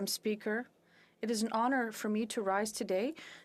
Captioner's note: speaking French